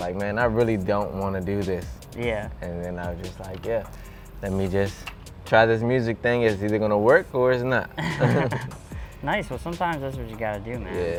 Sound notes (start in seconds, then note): 7.9 laughter